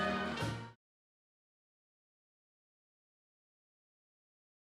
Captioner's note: audience cheers